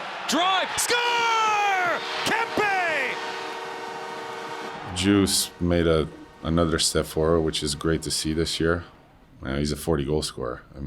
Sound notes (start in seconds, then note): 1.7 horn sounding